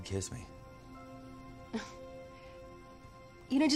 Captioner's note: laughs